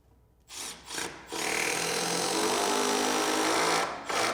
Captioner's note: drill whirs